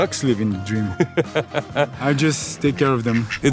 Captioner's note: laughing